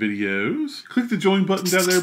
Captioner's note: marker scratching